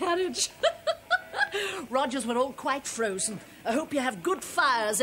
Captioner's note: chuckles